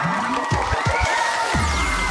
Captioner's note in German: Jubel